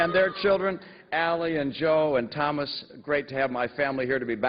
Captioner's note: cheers and applause